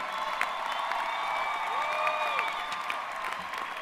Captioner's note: applause